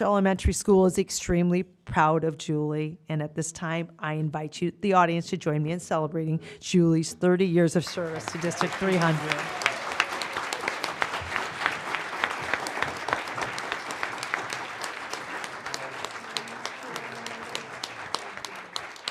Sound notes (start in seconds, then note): 7.8 applause